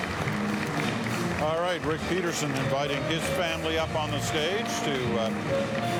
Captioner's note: applause